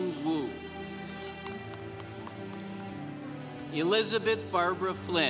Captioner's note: congregation applauding